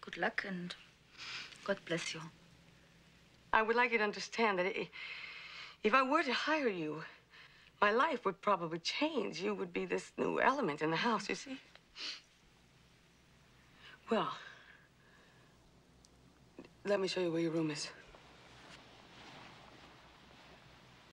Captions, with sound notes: AND GOD BLESS YOU. I WOULD LIKE YOU TO UNDERSTAND THAT IF I WERE TO HIRE YOU, MY LIFE WOULD PROBABLY CHANGE. YOU WOULD BE THIS NEW ELEMENT IN THE HOUSE, YOU SEE? [SNIFFLE] WELL... LET ME SHOW YOU WHERE YOUR ROOM IS.